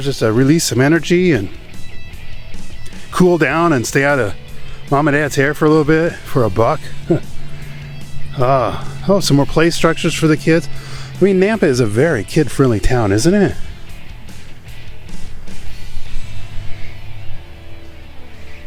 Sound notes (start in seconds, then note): 8.7 sighs